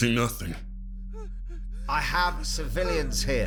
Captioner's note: quiet whimpers